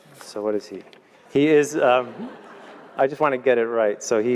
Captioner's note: laugh